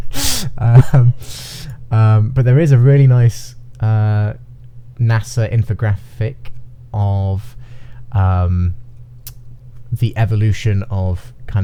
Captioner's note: laughing